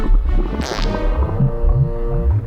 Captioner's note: fart